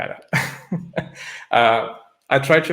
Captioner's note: chuckling